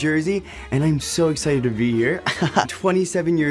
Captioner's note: laughs